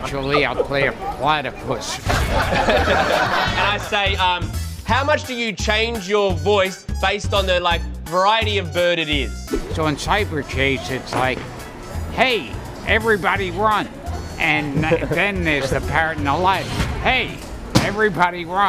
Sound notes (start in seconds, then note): 1.9 laughter